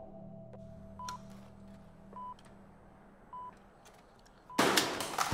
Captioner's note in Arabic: صفير